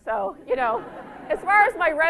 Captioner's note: laughter